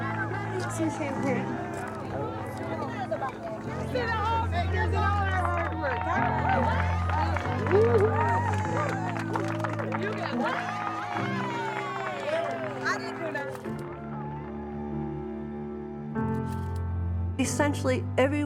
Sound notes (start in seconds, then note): 0.2 woman speaking softly, crowd cheering; 2.3 cheering continues; 6.2 crowd clapping and cheering; 10.8 exclaiming; 13.7 camera shutter clicking